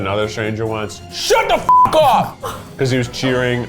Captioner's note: beep